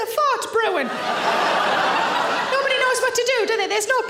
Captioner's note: audience laughs